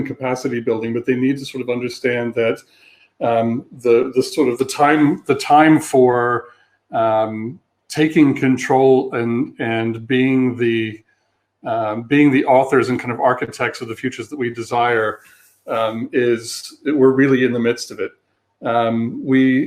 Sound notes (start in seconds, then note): 3.2 erm; 8.0 erm; 18.4 erm